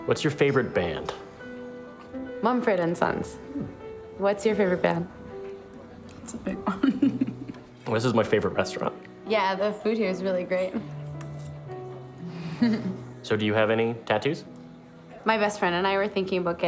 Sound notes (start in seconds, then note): 6.6 giggles